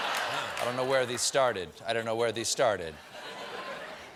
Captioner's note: laughter